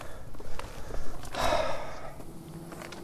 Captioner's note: stoke sighs